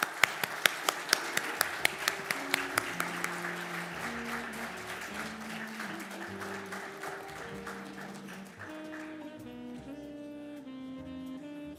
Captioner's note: applause